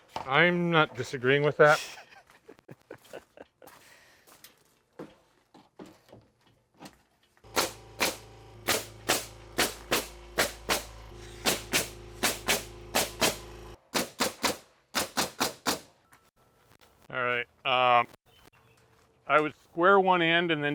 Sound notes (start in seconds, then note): 1.7 chuckles; 7.5 nail gun clicking